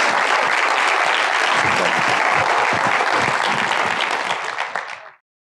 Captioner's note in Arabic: تصفيق